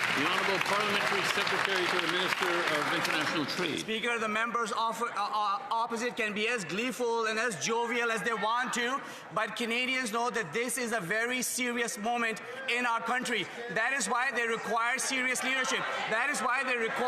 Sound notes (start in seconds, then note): 4.7 some Applause